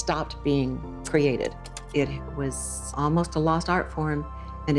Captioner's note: slide projector clicks